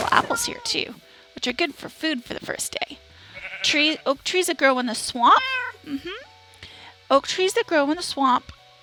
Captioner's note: cat meows